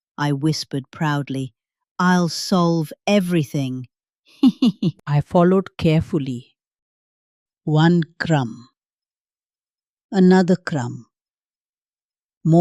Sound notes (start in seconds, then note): 4.4 laughs